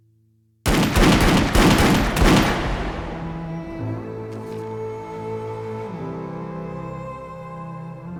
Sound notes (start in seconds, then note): 0.6 gun fires; 3.7 somber music